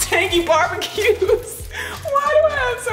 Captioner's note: laughing